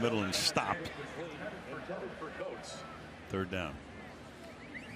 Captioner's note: pa announcement